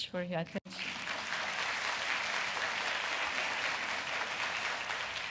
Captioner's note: audience applauding